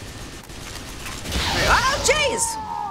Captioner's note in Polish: syczenie płomieni; w grze: klikanie